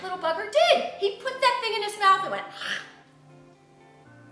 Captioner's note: hacks